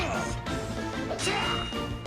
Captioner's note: battle Grunts